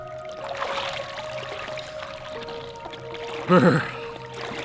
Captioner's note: water splashing